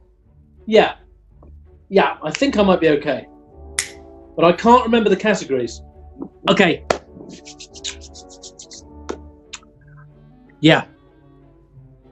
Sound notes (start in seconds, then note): 3.4 clicks; 3.8 clicks fingers; 7.1 claps